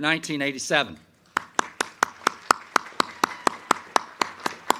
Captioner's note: crowd clapping